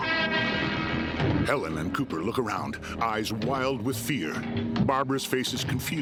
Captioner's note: heavy breathing; ominous music